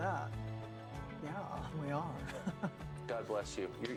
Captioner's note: chuckles